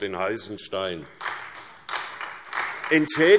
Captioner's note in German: Beifall SPD und Freie Demokraten